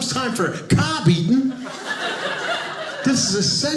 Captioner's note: audience laughing